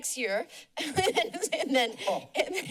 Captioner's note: laughing